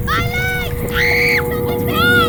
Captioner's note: screaming